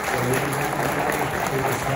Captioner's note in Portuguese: aplausos